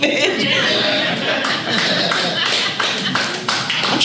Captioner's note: audience laughs